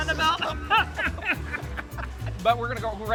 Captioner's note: both laughing